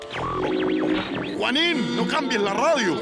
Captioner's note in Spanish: Se escuchan interferencias de Radio